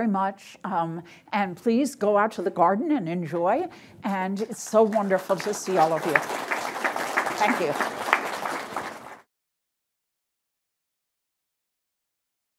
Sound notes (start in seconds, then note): 6.2 audience applauding